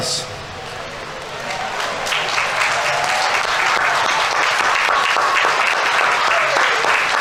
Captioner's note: audience members cheering; audience applauding